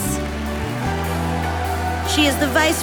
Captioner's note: audience applauding